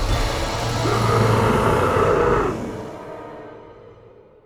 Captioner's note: angry roar